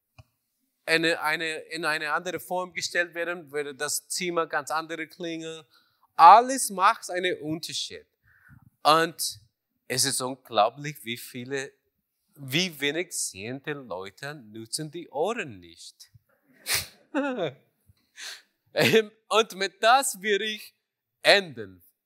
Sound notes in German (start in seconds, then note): 17.2 Lacht